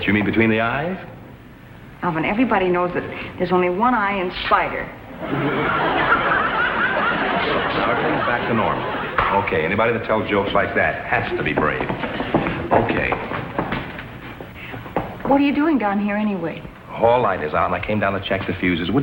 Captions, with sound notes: - Don't do you mean between the eyes? - Alvin. everybody knows that there's only one I in spider. (laughs) (audience laughs) - Okay, so everything's back to normal. Anybody that tells jokes like that has to be brave. Okay. - What are you doing down here, anyway? - Hall light is out and I came down to check the fuses.